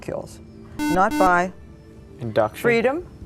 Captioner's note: buzzer